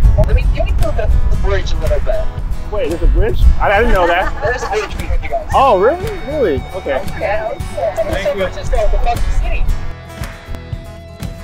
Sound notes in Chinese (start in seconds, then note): 3.8 笑声